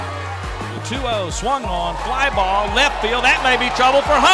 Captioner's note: voiceover